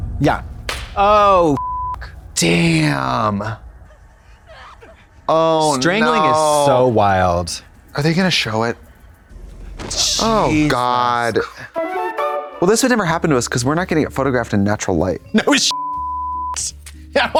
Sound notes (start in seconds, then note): 1.6 beep; 6.0 yelps; 15.7 beep